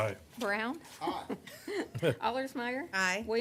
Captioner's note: laughter - he has come in late